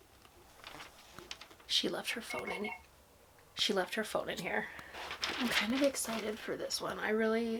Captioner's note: beep beep beep